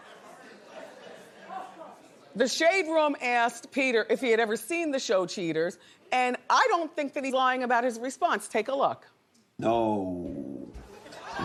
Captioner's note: audience reacts